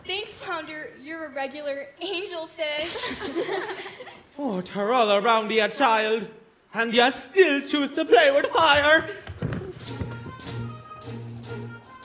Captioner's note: laughter